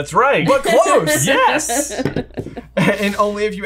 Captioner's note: laughs